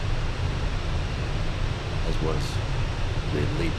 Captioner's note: radio chatter